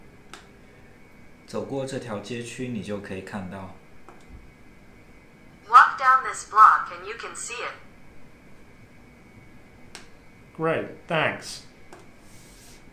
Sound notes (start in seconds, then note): 1.3 speaker 2 speaking in foreign language